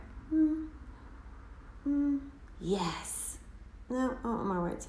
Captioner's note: humming